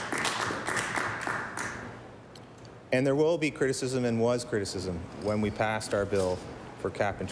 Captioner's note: applause